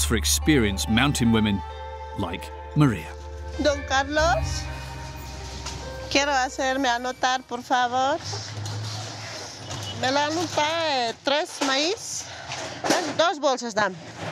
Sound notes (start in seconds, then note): 4.1 speaking in foreign language